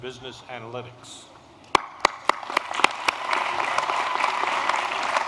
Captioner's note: applause